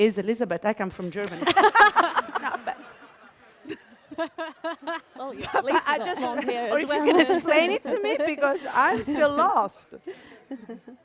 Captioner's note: laughter